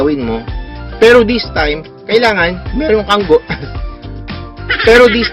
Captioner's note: voice crack